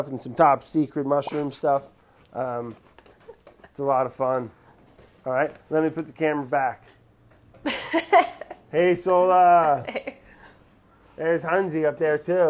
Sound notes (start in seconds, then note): 7.6 laughing